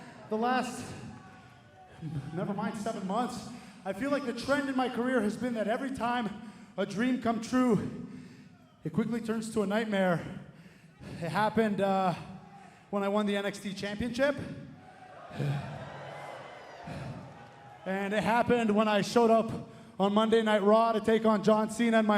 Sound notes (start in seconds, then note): 14.7 crowd cheering